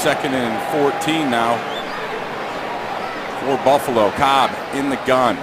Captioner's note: whistle